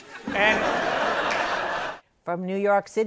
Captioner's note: laughter